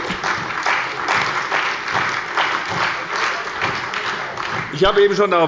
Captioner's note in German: Beifall bei der SPD und der CDU